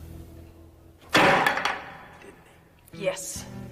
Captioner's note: hands slamming